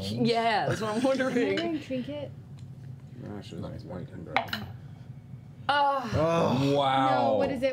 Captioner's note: groans